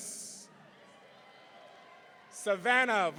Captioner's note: audience cheering